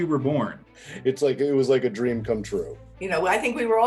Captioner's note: laughing